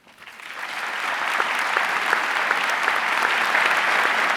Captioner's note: audience clapping